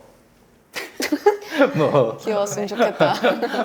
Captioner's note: crack up